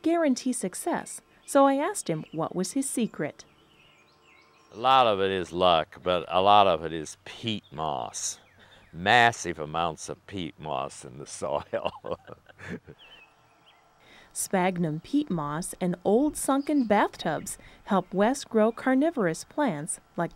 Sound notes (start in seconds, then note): 11.3 laughing